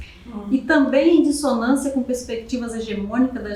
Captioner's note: speaking portuguese